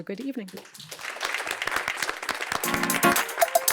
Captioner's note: applause